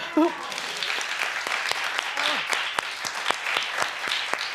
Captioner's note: audience applauding